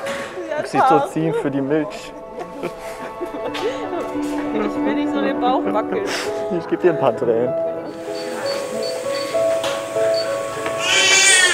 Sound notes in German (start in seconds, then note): 2.7 Emotionale Musik; 8.1 Rauschen und Piepen; 10.8 Schreiendes Baby